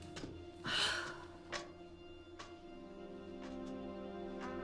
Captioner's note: Madison sighs